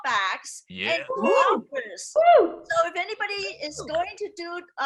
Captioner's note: attendees cheering